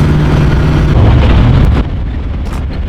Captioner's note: car accelerating